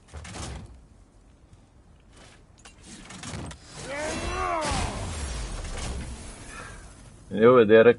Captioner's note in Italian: gemito